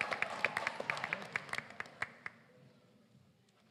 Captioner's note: applause